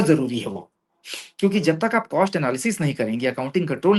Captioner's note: nasal voice